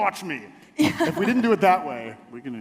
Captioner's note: laughs